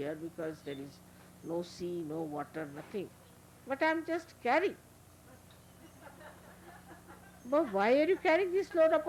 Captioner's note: laughter